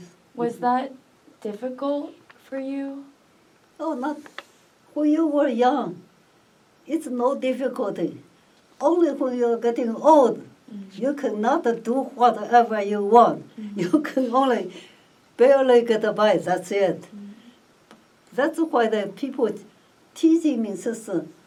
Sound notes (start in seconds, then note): 13.2 laughs